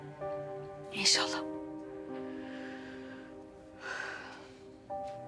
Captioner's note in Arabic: زفير